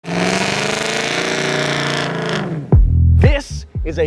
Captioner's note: engine noises